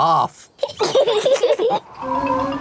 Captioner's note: both laughing